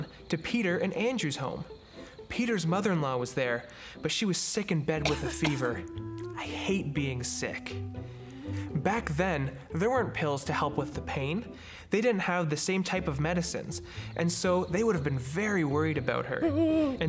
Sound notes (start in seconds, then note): 5.0 Peter's mother-in-law coughing